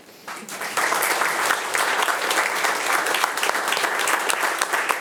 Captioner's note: attendees applauding